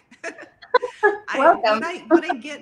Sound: laughs

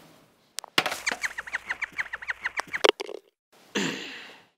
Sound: hamster squeaking

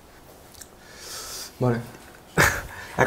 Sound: ahem

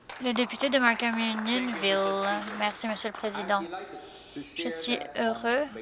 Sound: applause

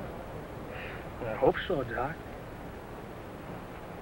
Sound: sigh

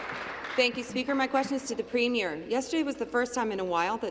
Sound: applause

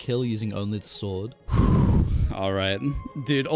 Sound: big exhale

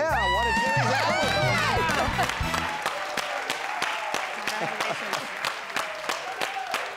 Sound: audience applauding

